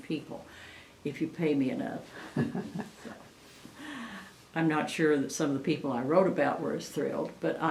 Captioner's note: laughs